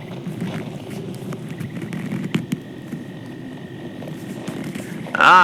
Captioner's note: both snuggle up together fx